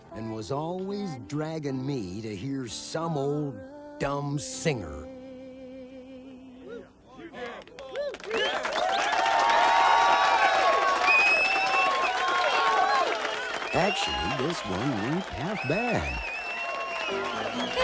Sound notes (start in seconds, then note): 7.5 crowd cheering; 8.8 crowd clapping